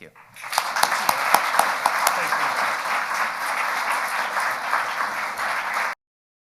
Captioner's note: audience applauding